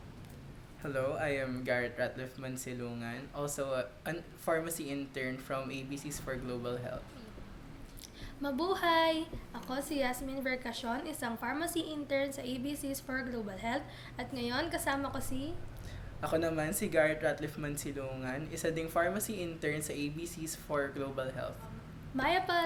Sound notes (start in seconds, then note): 7.7 introduces herself in Tagalog